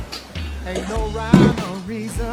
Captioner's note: thud!